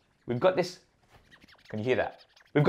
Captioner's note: scratching noise